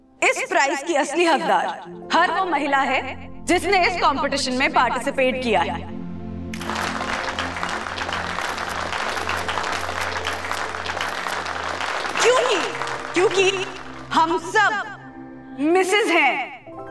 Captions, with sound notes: the true winner of this prize is every woman who has participated in this competition. [audience clapping] Because, we all are missus.